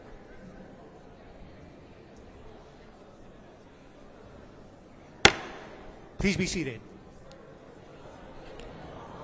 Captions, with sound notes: [gavel bangs once] Please be seated